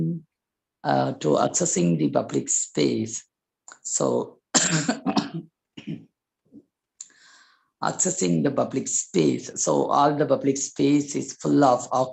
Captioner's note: cough